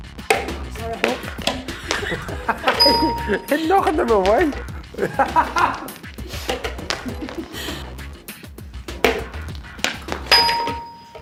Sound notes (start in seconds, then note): 1.5 laughing; 4.9 laughing